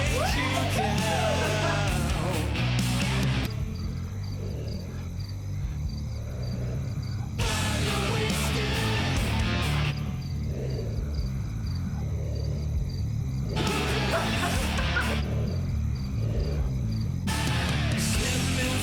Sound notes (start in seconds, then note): 3.4 crickets chirping; 5.7 heavy breathing; 10.0 heavy breathing